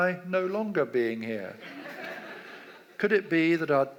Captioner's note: audience laughs